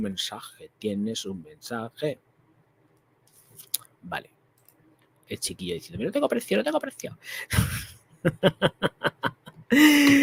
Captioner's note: laughs